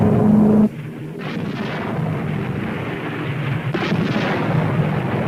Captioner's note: plane engine revving; weapons firing